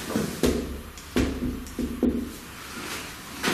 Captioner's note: thuds